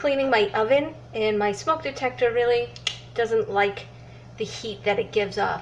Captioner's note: clicks